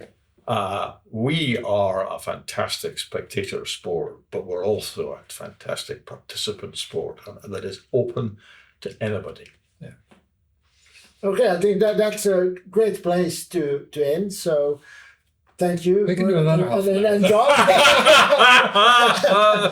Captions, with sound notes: We are a fantastic spectator sport, but we're also a fantastic participant sport that is open to anybody. Yeah. Okay. That's a great place to end. So thank you for your help. We can do another half hour. We can do another half hour. [LAUGHTER]